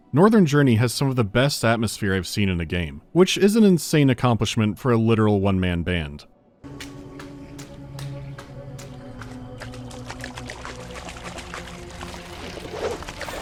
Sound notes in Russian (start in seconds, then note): 6.7 мокрые шлепки; 9.5 плеск воды